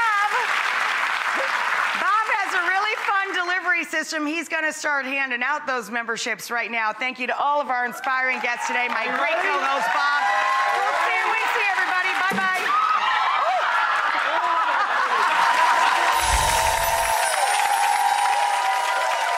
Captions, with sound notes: Bob, Bob has a really fun delivery system. He's gonna start handing out those memberships right now. Thank you to all of our inspiring guests today. My great co-host Bob. (cheering drowning out words) see everybody. Bye-bye. (audience cheering) (chimes ringing)